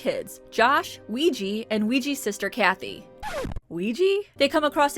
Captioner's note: record scratch